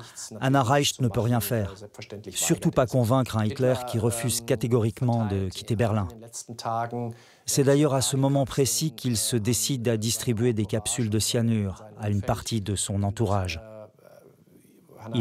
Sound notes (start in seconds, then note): 4.8 German spoken audio